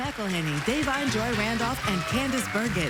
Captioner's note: applause